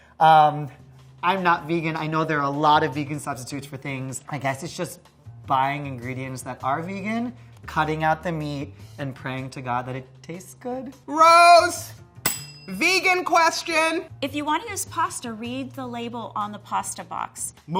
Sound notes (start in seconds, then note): 12.2 bell dinging